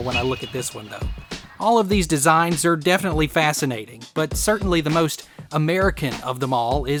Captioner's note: laughs